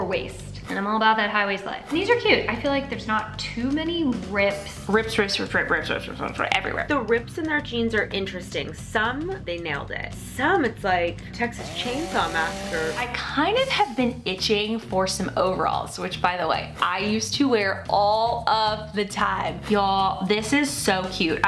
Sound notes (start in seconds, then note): 11.5 chainsaw revs loudly